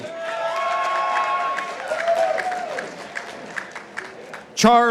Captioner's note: participants applauding